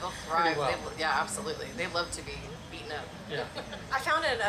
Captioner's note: laughs